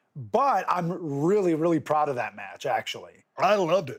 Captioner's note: none